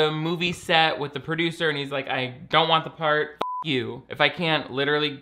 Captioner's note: beep